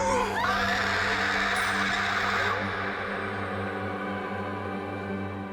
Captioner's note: pale woman roars; Rachel shrieks; somber music